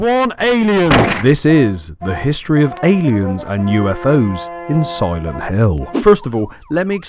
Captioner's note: alien ship noise